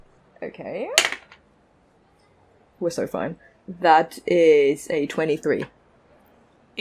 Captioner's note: dice clacks